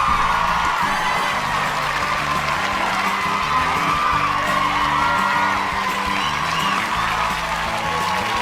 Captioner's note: cheers and applause